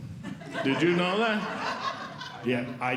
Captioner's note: audience Laughing